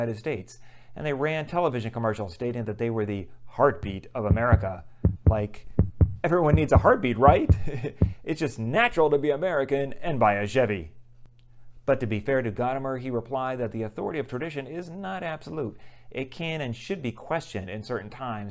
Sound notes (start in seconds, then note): 5.0 heart beating